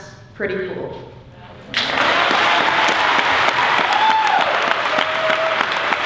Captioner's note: applause